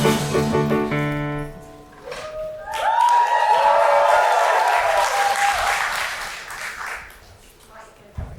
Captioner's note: audience cheering and clapping